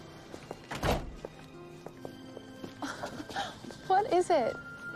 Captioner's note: giggles